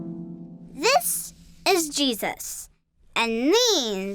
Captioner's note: voiceover